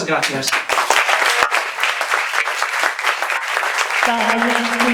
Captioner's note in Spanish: aplausos